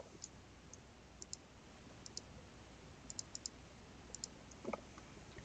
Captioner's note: mouse clicking